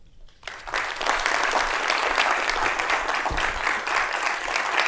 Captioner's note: people clapping